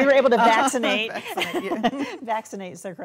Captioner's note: laughing